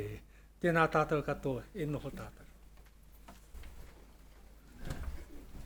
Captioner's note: speaking Maori